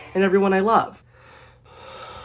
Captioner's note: exhale; inhale